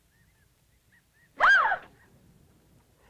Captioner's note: scream of scare